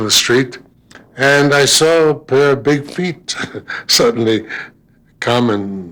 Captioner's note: chuckling